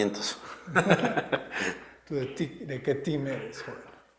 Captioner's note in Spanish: Risas